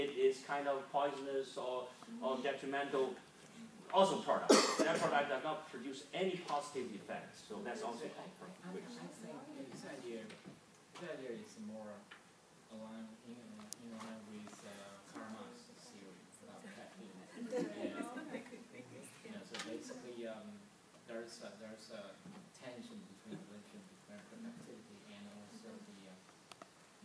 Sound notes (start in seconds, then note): 17.3 group laughing